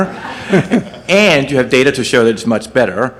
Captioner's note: audience laughs